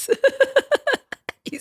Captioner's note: laughter